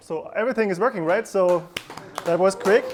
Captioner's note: clapping